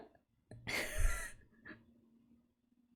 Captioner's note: laughs